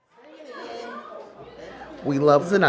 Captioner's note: background chatter